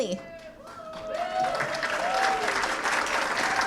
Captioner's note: applause